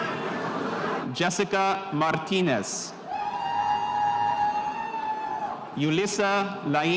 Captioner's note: spectators cheering